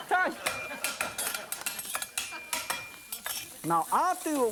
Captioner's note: audience laughing; rhythmically tapping cleaver